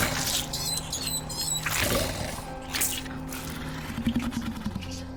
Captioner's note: rabbit squeals